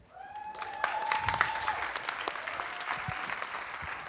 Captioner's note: audience applauding